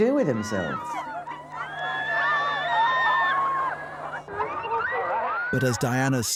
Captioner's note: crowd cheers and screams